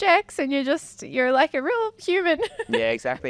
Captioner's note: laughing